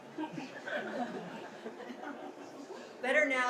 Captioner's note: audience chuckles